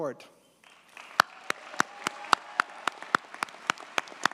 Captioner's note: graduates applaud